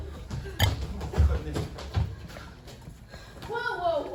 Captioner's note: Margaret and Harlow running, gasping